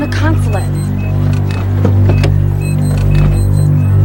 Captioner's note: beeping